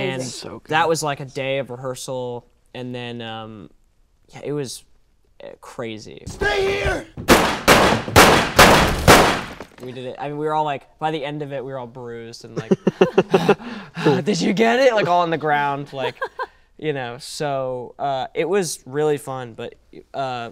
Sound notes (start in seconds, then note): 7.2 gun shooting; 13.4 Finn breathing heavily